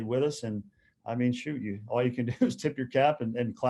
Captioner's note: chuckles